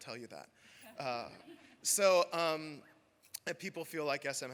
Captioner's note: laughter